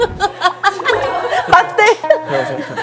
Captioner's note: pat